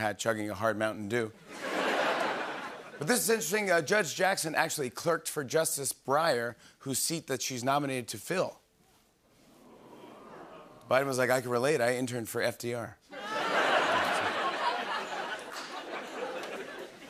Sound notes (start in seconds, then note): 1.5 laughter and applause; 9.7 audience ohs; 13.1 laughter and applause